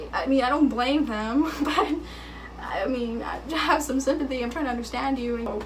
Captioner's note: chuckling